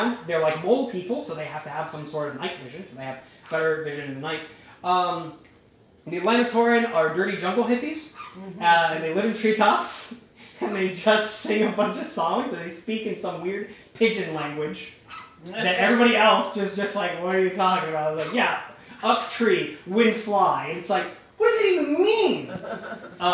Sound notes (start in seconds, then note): 10.4 laughing